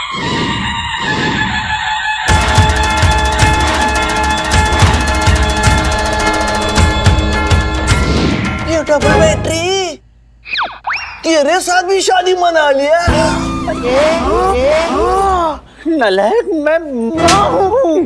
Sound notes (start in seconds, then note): 13.2 All gasps; 17.6 Slaps